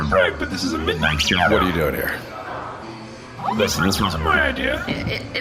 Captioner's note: skeptically